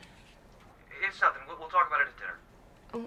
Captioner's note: on phone